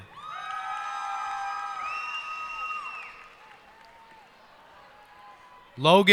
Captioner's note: cheers and applause